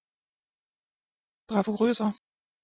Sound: fast Pronunciation

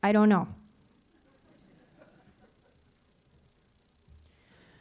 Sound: audience laughing

